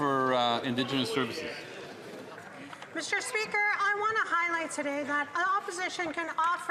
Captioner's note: some Applause